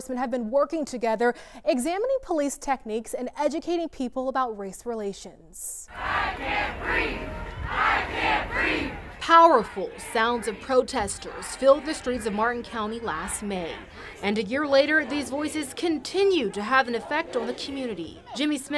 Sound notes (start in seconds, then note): 10.9 chanting